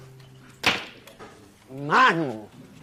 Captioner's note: door closes